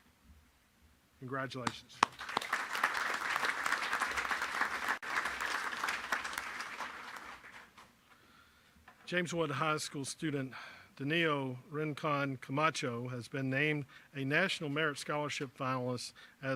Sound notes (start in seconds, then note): 4.6 applause